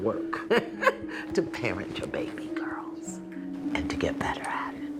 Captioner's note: laughs